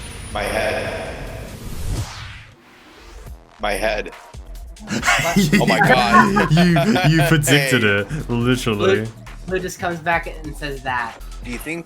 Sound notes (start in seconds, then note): 4.8 laugh; 4.8 laughs